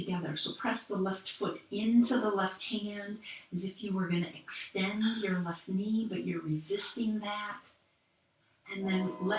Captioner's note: train horn blares again